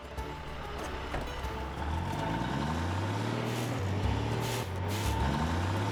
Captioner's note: engine Revving